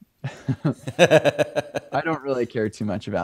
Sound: laughs

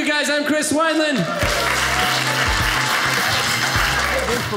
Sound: audience cheering

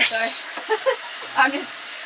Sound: laughing

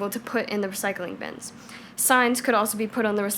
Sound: none

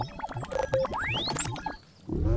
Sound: beeping

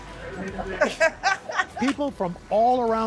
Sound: laughter

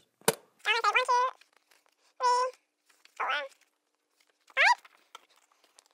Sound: sped up counting

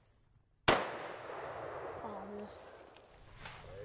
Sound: gunshot

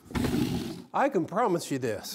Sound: wood scrapes

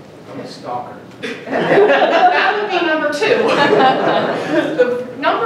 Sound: laughing

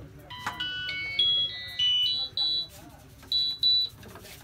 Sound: phone beeps message notification

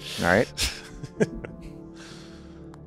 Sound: laughing

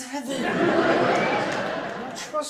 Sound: audience laughs

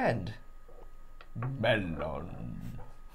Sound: Imitating Gandalf

